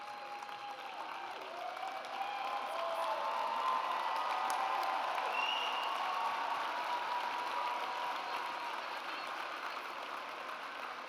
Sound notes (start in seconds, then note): 1.6 audience cheers